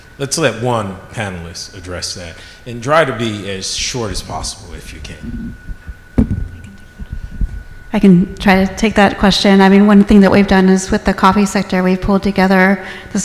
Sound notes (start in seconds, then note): none